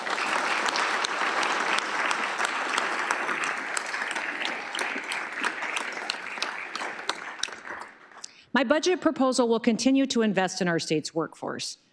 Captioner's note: applause